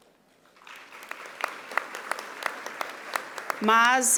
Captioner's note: audience applauding